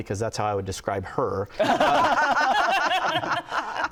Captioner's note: laughter